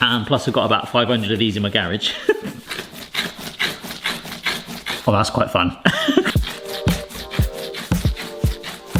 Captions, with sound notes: And plus we've got about 500 of these in my garage. (dough squelching) Oh, that's quite fun. (laughs) (upbeat music)